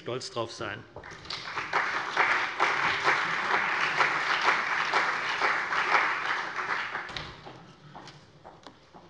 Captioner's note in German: Beifall CDU und BÜNDNIS 90/DIE GRÜNEN